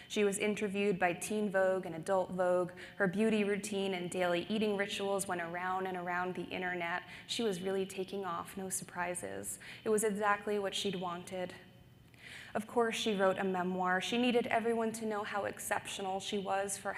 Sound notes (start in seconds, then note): none